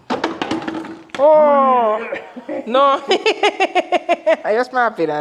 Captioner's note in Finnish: naurua